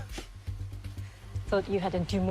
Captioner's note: laughs